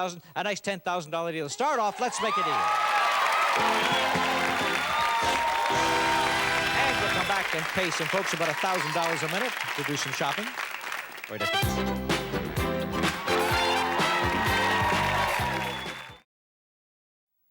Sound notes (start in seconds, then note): 3.0 cheers and applause; 11.3 theme music playing